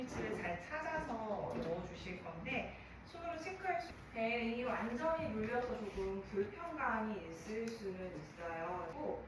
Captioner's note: breath